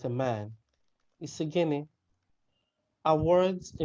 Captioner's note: speaking in a Nigerian language